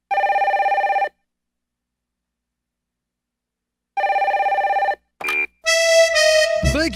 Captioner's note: ring. Ring